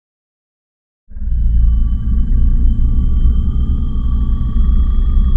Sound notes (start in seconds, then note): 0.0 silence; 1.1 ominous music